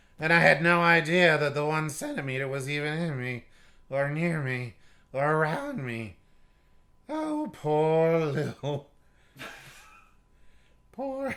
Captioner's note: laughing